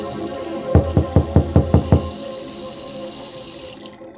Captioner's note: knocking on door